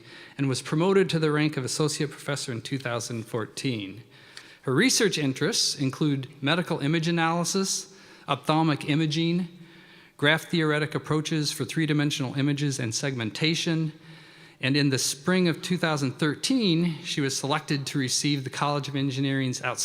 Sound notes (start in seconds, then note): none